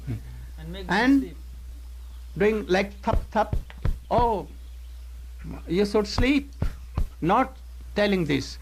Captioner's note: patting